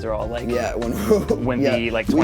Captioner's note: laughing